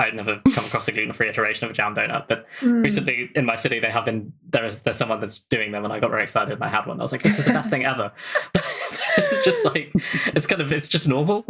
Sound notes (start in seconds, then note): 7.2 laughs